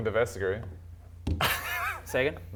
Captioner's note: cringe laughs